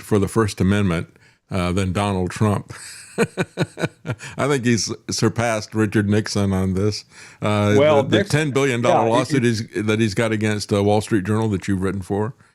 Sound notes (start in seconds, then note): 2.8 laughing